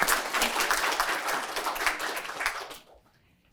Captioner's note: applause